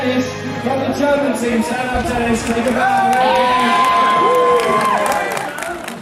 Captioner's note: cheering and applauding